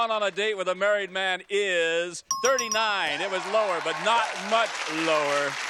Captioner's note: applause